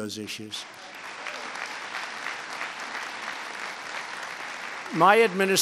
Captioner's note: applause